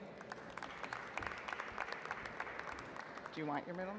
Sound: audience applauds

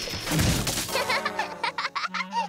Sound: laughing

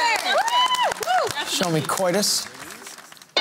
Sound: cheering

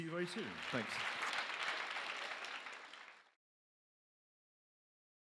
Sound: applause

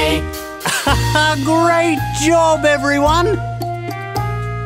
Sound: laughs; upbeat music

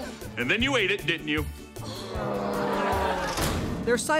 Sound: groaning

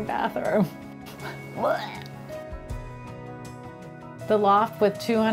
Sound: makes retch noise

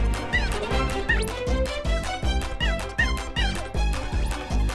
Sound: monkey squeaking

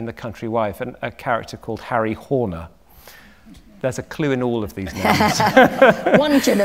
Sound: laughter

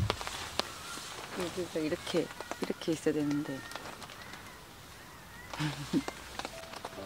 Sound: laughter

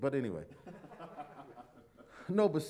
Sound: laughter

